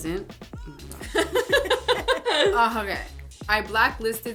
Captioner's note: laughter